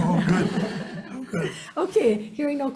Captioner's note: audience laughing